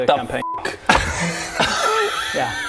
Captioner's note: amnesiac laughter